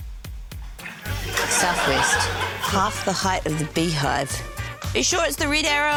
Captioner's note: laughter